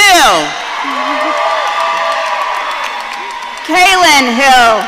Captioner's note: audience cheering